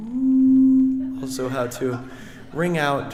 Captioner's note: audience laughing